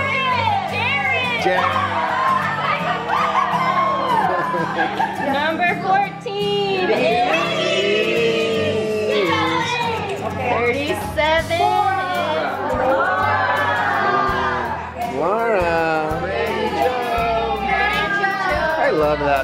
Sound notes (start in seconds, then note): 2.1 crowd cheering; 16.5 murmurs